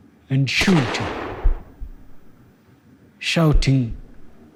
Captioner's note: gunshots